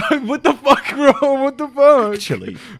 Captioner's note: laughing